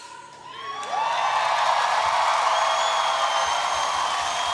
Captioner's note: audience cheering